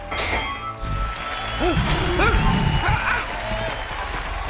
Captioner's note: lion roaring